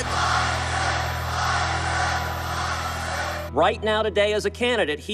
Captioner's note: crowd